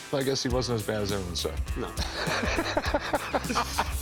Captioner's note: laughs